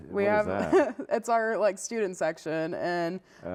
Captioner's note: laughs